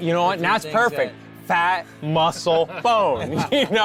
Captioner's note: laughing